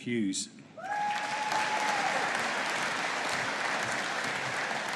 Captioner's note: audience applauding